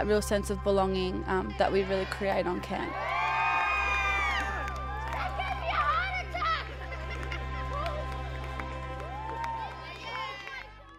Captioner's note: cheering